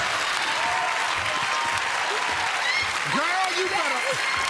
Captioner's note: cheers and applause